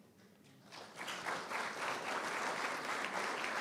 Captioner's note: applause